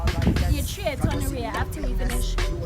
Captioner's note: Twi language